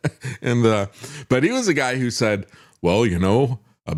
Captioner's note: laughs